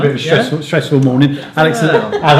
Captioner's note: laughing